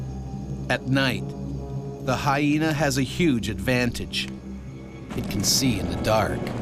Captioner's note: voiceover